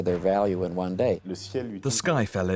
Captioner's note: non-english speech